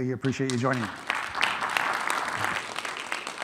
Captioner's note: audience applauding